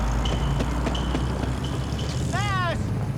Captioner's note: pounding